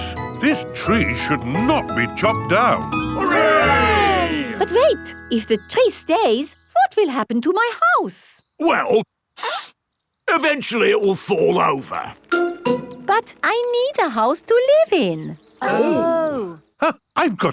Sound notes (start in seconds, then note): 9.4 sniffs